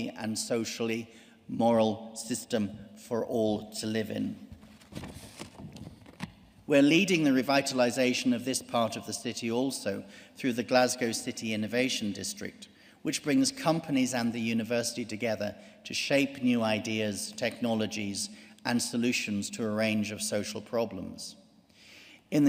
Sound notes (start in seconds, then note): none